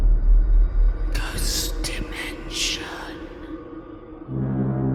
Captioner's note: ghostly Voice